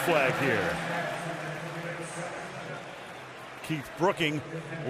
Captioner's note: pa announcement